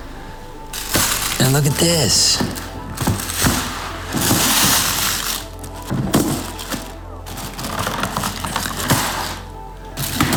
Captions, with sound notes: (paper rustling) and look at this. (paper rustling) (reflective music)